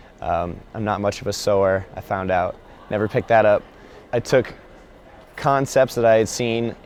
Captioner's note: laughs